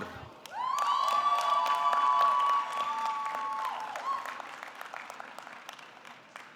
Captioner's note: audience clapping; audience cheering